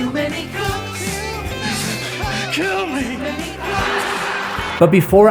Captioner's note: whimpering